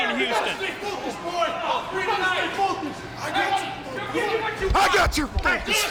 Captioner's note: people chattering